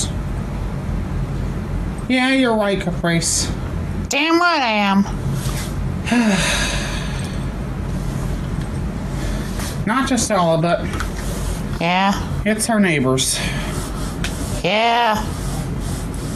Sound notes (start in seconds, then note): 6.0 sighs